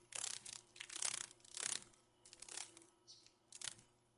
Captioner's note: sounds of a dragon fly